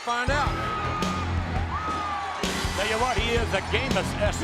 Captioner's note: audience cheering; brooding rock music